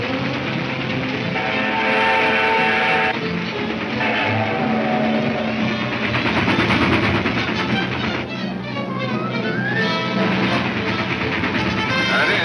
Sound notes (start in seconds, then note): 0.2 whistle trumpets; 9.2 train engine chugging